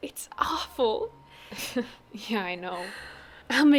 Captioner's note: laughing